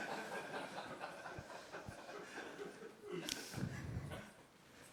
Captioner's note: audience laughs